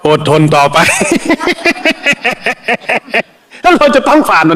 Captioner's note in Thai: เสียงหัวเราะ